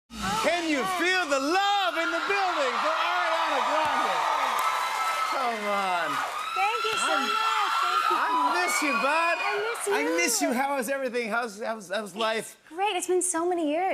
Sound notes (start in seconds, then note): 3.9 cheers and applause